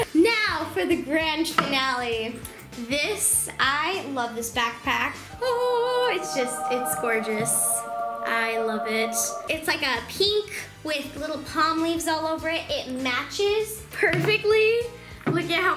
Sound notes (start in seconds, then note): 5.2 magical sound